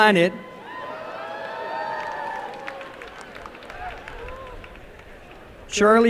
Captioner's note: applause and cheering